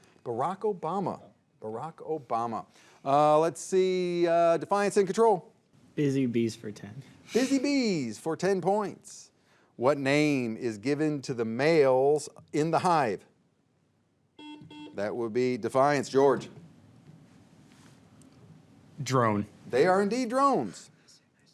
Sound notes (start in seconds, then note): 14.4 buzzer beeps